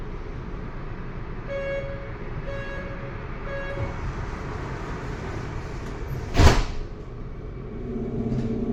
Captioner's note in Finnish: ovien sulkeutumisääni